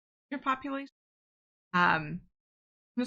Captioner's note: audio cuts out